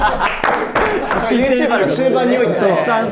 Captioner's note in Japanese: 一同：笑い